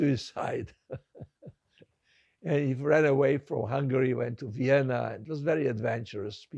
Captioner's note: laughing